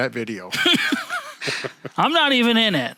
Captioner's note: both laughs